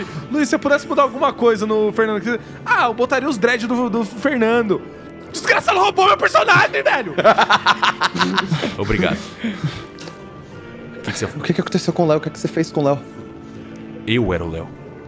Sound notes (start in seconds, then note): 6.3 laughs